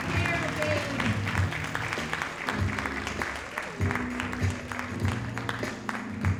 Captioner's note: audience cheering and applauding; audience applauding